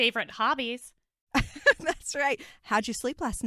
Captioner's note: laughter